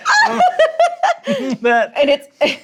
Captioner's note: laughs